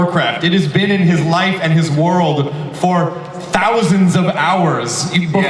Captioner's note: none